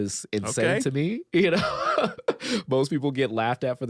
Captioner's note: laughs